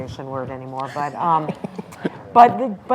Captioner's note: laughs